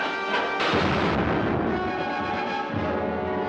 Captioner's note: gun firing; dramatic music